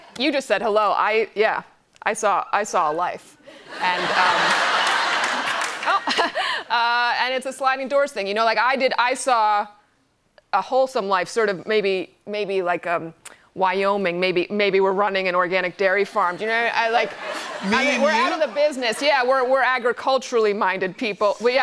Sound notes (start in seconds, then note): 3.5 laughter; 5.1 chuckles